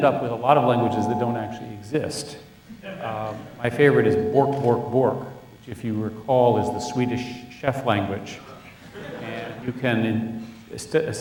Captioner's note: all laugh